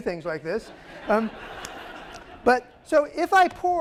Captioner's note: laughter